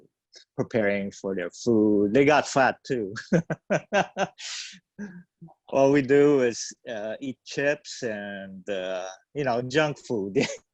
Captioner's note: laughs